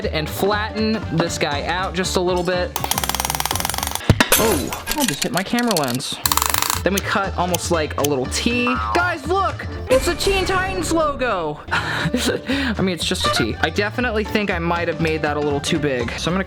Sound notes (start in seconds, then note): 2.8 hammer clanging; 5.1 glass breaking; 6.2 hammer clanging; 11.7 laughing